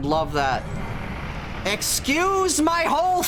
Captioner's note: growling woosh